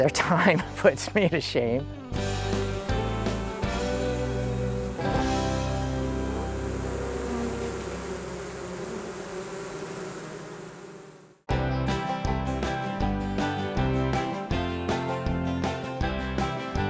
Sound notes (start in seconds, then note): 0.7 laughing; 7.7 bees buzzing